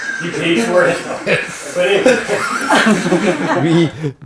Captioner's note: audience chuckling; chuckling